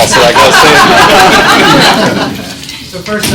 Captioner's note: class laughing